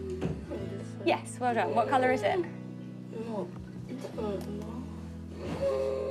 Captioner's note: murmurs, wheezes